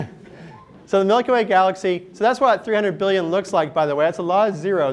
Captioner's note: laughter